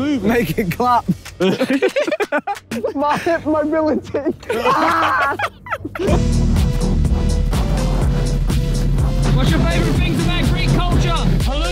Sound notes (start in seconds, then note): 1.2 Vik and Tobi laughing; 4.4 Tobi laughing; 6.2 epic music begins